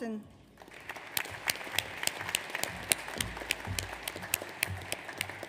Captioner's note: audience applauds